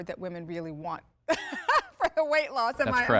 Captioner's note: laughter